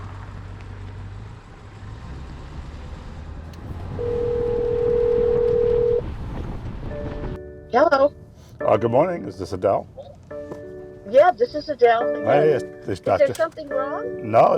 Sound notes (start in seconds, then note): 0.0 car engine sound; 4.0 phone ringing